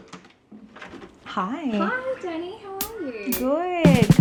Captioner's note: knocking; upbeat music